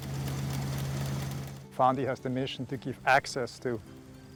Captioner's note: tractor buzzing